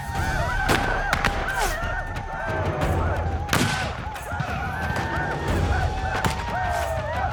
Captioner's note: gunfire